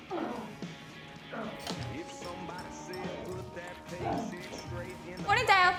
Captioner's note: Ellie moans; Tommy moans